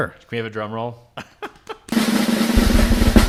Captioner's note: laughing; drum roll